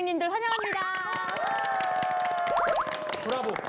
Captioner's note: A round of applause